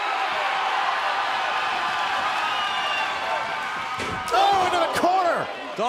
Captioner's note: cheers and applause